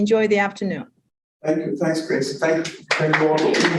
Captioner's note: audience applause